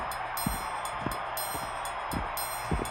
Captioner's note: cheering